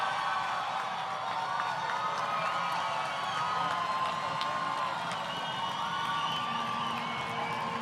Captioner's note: crowd Cheering